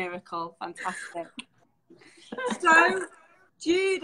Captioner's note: laughing